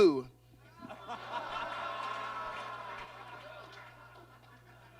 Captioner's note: audience laughs